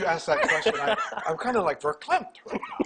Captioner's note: laughing